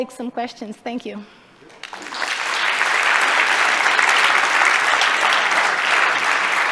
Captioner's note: applause